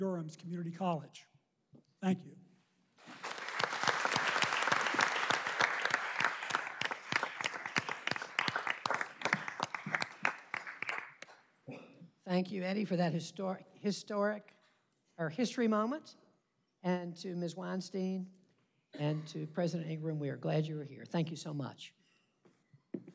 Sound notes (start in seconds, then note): 7.0 applause